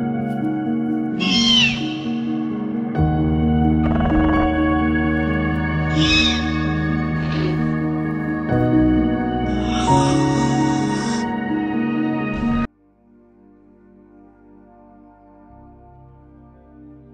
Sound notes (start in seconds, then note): 0.7 Raptors squealing